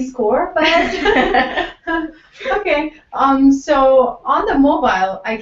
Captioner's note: laugh